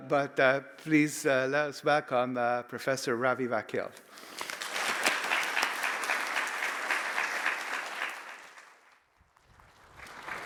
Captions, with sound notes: but please let us back on Professor Ravi Vakil. (audience applauding)